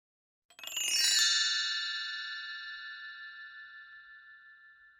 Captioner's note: bells chiming